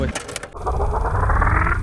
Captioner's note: click